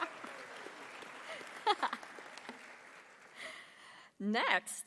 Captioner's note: laughs; audience applauding